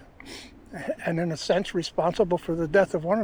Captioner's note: sniffles